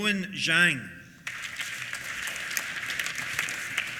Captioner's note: applause